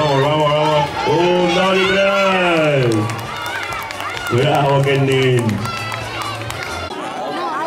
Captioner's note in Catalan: Aplaudiments